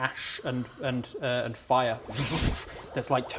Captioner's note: whoffshsh